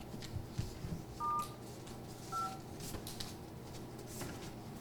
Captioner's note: phone beeps